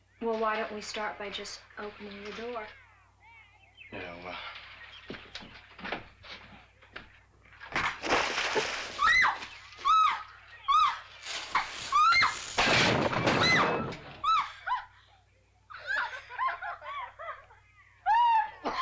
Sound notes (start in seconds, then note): 7.5 water splashes; 8.9 Nellie screams; 11.4 Nellie screams; 12.2 crash; 12.5 Nellie yelps; 15.6 laughing; 18.4 Cass coughs